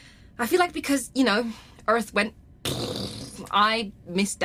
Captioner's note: makes explosion noise